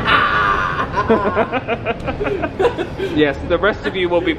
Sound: laughing

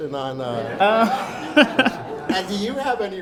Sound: everyone laughs

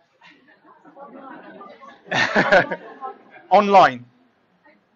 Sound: laughing

